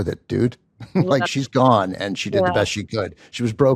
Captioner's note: laughs